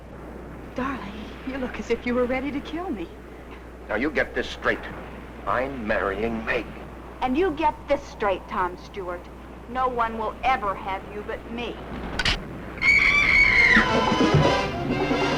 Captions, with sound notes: Darling, you look as if you were ready to kill me. - Now you get this straight. I'm marrying Meg. - And you get this straight, Tom Stewart. No one will ever have you but me. (rail snaps) (Vi screaming) (suspenseful music)